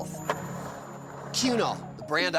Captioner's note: skateboard wheels roaring